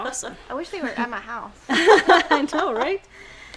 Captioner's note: laughing